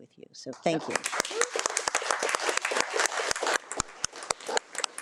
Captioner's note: attendees applaud